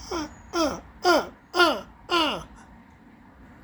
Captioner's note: making crow sounds